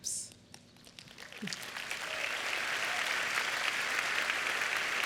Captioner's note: applause